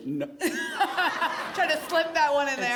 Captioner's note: laughter